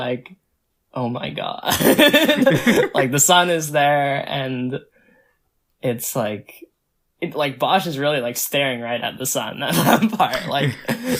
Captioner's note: both laugh